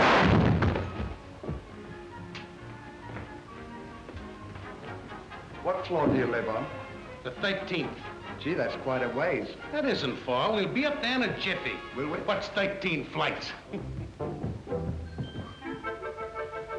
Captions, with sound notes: (elevator crashing) (gentle music) (footsteps plodding) - What floor do you live on? - The 13th. - Gee, that's quite a ways. - That isn't far. We'll be up there in a jiffy. - Will we? - What's 13 flights? (gentle music)